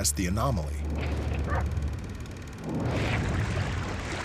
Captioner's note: projector whirring; water lapping